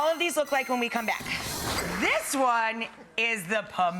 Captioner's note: air whooshing